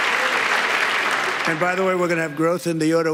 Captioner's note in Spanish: aplausos